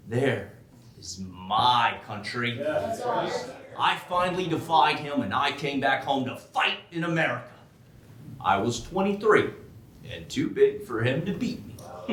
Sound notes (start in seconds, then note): 2.5 audience cheering